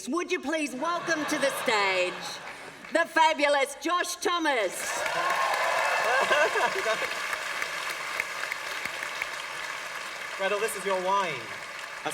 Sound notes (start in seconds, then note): 4.8 applause